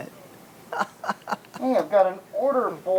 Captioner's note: laughs